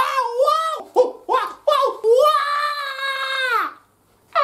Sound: screams as she slips on banana peel

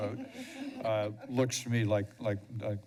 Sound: laughter

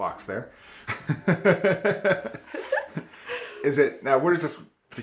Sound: laughs

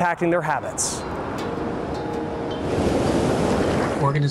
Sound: waves crashing

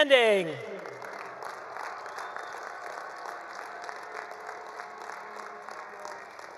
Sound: attendees cheering; attendees applauding

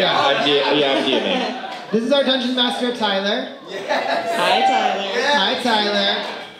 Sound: cheers

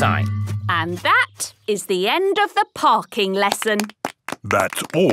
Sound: clapping

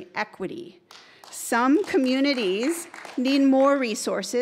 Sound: audience member applauding

